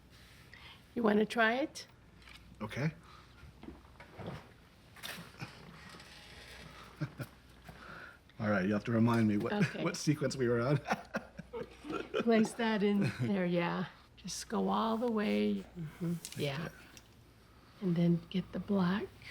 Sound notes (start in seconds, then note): 6.7 chuckles; 10.8 laughs